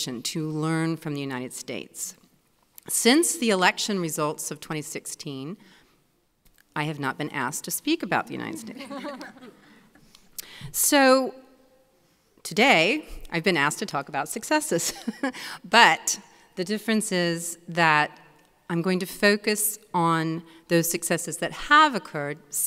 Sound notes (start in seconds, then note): 8.7 audience laughing; 14.7 laughs